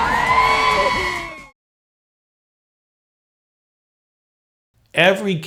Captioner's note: screams